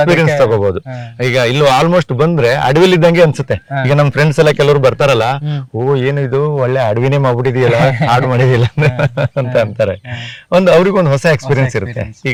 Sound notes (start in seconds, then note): 7.4 laugh……